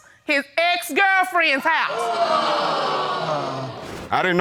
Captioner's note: audience exclaims